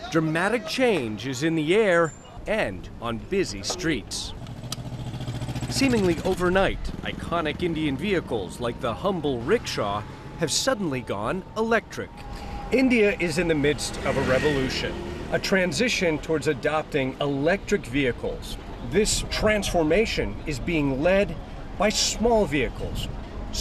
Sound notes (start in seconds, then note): 3.7 rickshaw engine sputtering